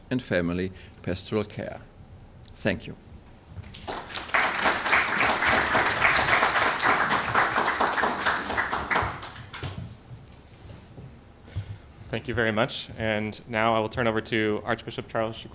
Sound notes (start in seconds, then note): 3.6 applause